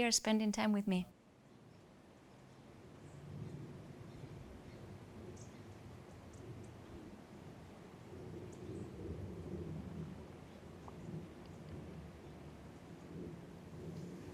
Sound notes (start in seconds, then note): 8.0 birds chirping faintly